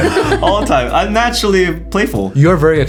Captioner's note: laughing